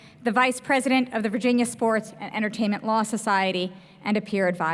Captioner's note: none